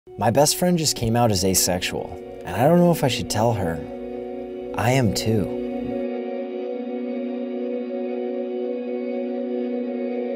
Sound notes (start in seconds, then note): 0.2 voiceover; 5.7 gentle music